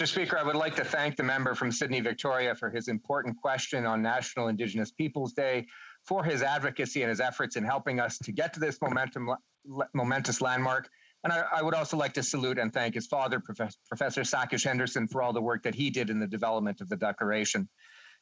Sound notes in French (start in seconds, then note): 6.5 voix de l'interprète